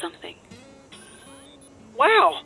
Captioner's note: electronic noises